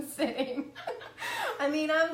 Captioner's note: laughing